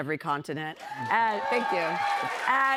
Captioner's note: cheers and applause